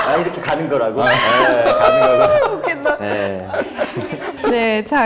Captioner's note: laughing